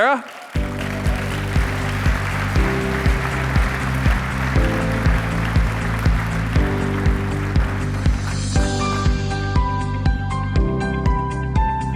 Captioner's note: applause